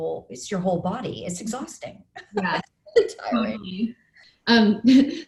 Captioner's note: laughs